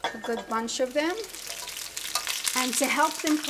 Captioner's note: oil sizzles